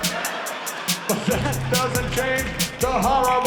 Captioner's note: laughter